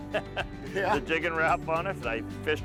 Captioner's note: chuckles